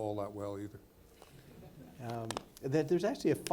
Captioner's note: people laughing